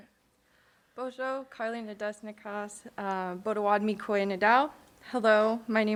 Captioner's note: speaking in foreign language